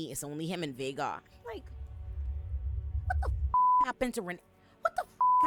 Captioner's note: beep; beep